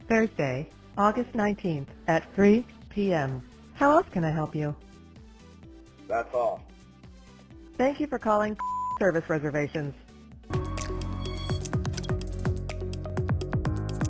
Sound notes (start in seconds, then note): 6.2 male Voice; 8.6 beep; 10.4 upbeat music